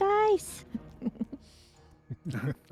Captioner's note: laughs